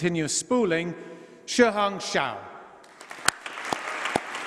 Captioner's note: applause